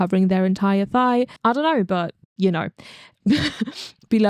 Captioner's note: laughs